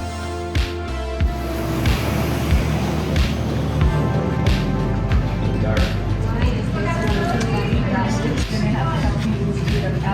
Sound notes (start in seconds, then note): 0.1 upbeat music; 6.6 people chattering